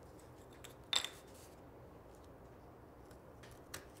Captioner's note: wood clatters